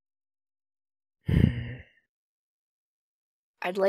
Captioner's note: disgruntled sigh